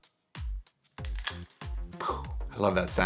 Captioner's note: straws cracking